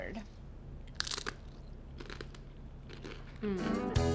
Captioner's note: Crunch